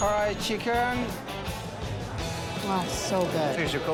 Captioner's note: bell dings